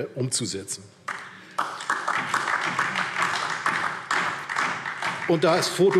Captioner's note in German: Beifall DIE LINKE